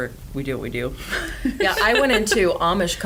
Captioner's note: laughs